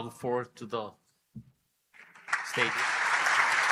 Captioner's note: applause